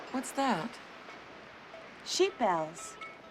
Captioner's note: bells clanging